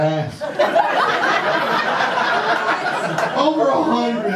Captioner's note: audience laughter